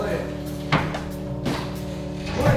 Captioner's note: door bangs